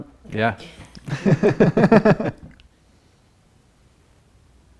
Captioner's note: laughing